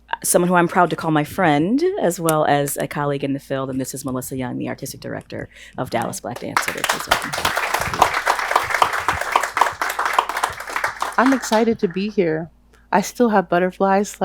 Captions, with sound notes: someone who I'm proud to call my friend, as well as a colleague in the field. And this is Melissa Young, the Artistic Director of Dallas Black Dance Theatre. (audience applauds) - I'm excited to be here. I still have butterflies,